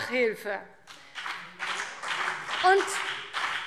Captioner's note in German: Beifall BÜNDNIS 90/DIE GRÜNEN und vereinzelt CDU